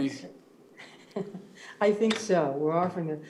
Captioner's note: laughs